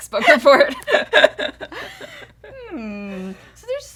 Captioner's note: laughter